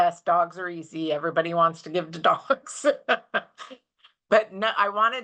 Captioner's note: chuckles